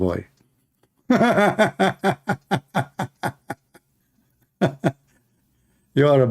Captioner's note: Ketawa